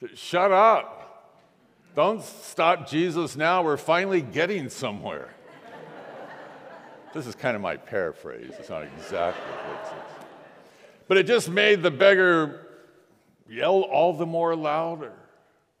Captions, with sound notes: "Shut up, don't stop Jesus. We're finally getting somewhere." (congregation laughs) This is kind of my paraphrase, it's not exactly what it says. (congregation laughs) But it just made the beggar yell all the more louder,